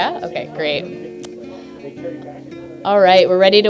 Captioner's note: background chatter